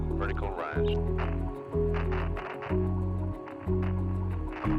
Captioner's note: static crackles